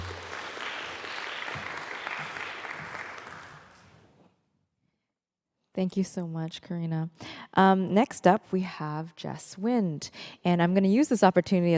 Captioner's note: applause